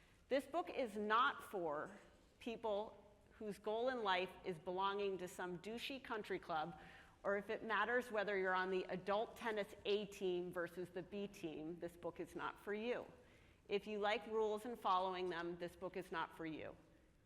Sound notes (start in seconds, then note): none